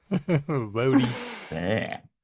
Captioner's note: chuckles